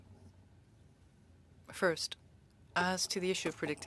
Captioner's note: speaking French